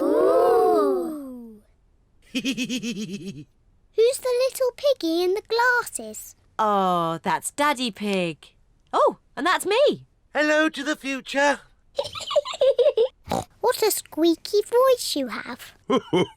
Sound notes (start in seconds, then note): 2.3 laughs; 12.3 laughs